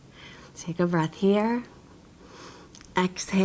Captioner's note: inhales deeply